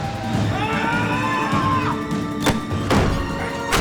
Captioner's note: intense music; Paul screams; body thuds